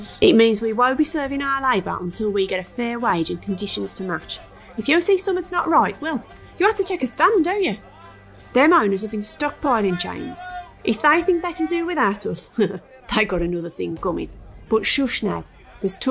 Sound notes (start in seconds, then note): 12.4 giggles